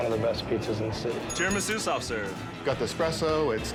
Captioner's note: bell rings